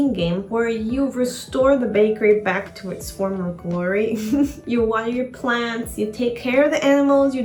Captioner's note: chuckle